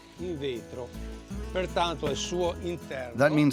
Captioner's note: Italian spoken audio